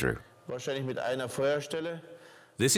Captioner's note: speaking German